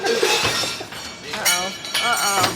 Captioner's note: laughs; crashing